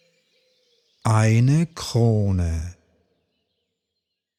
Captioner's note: german